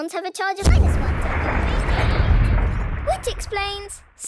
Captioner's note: distant explosion